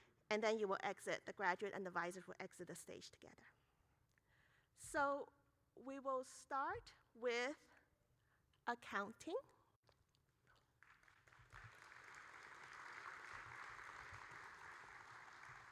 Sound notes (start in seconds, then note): 10.7 audience applauding